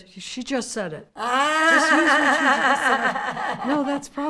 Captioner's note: Fran laughs